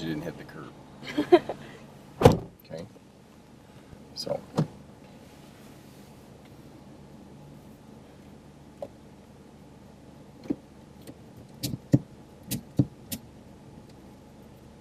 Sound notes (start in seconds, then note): 1.0 laughs; 2.1 car door slams